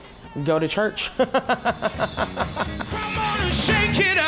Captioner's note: laughs